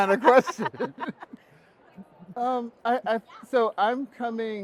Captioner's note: both laughing